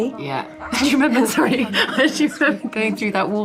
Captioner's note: laughing